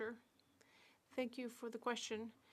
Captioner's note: speaking French